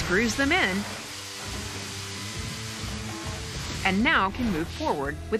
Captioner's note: machine whirring